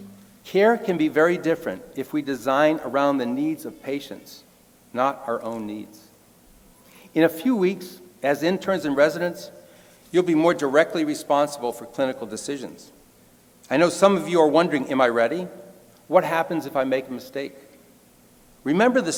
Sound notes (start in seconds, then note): none